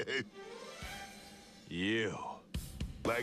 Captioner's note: laughs